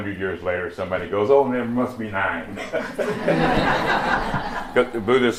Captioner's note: laughter